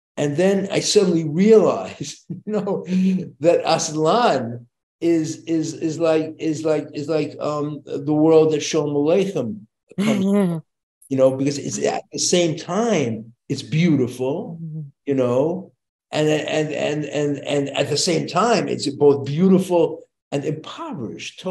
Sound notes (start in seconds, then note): 2.0 chuckles; 8.7 speaking Yiddish